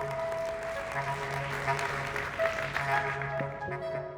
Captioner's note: applause